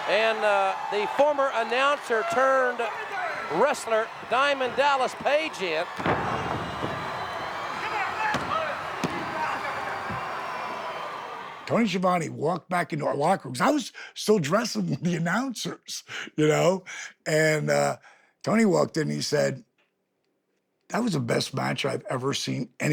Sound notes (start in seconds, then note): 8.5 crowd chattering